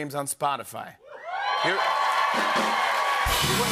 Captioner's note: cheers and applause